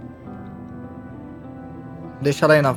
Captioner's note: none